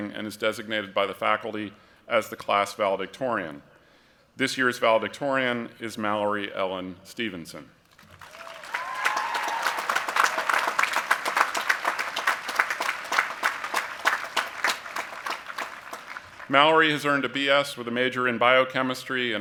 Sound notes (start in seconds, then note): 8.0 applause